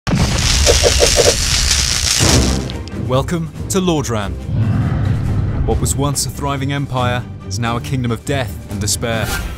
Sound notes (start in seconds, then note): 0.0 electric sparks arching